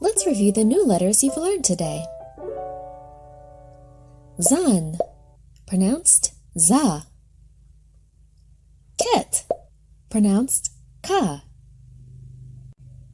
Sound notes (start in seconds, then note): 6.3 objects popping